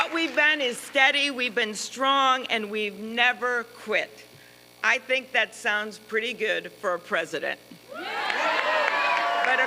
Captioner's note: applause